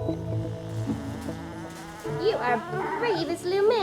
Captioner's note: Ted whimpering